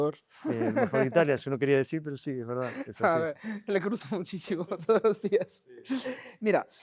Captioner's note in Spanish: risas